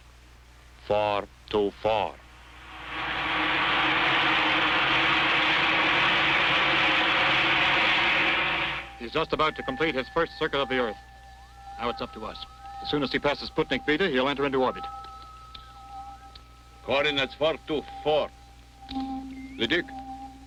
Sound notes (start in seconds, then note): 2.4 rocket whooshing